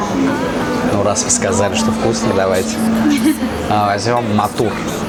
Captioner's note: stuff laughing